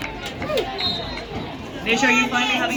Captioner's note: whistle blows